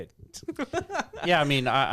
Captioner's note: laughing